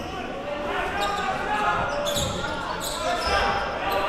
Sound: crowd cheering

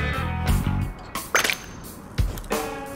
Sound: high pitched ping

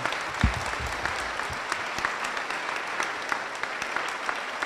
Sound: applause

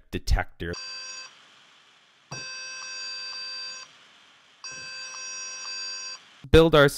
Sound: series of beeping sounds

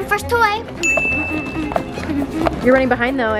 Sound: ding

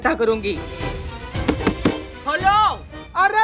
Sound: knocking on door

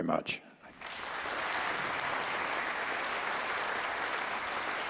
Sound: audience applauding

